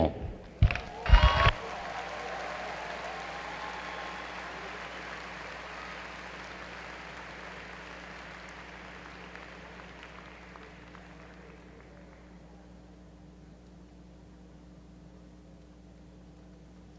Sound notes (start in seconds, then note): 2.9 applause